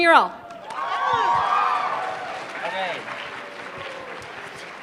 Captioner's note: applause